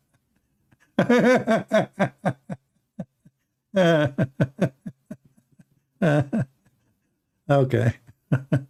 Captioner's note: Ketawa